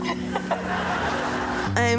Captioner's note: Selma and live Audience laugh